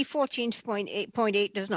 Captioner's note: speaking French